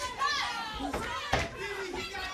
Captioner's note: crowd chatter